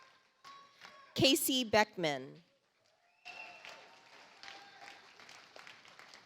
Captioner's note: audience applauds